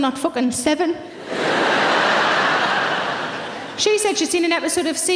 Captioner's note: audience laughing